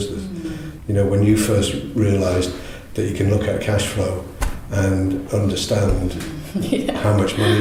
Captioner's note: laughs